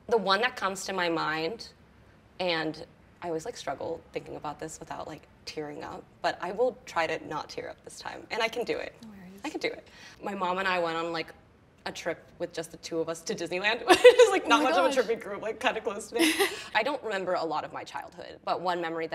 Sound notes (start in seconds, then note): 13.9 laughs; 16.1 laughs happily